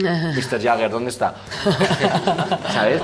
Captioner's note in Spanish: todos ríen